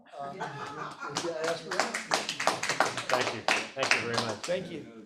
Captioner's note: audience applauding